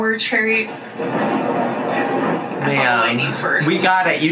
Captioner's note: thunder rumbles